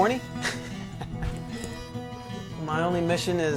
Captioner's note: chuckles